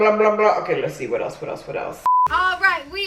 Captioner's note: beep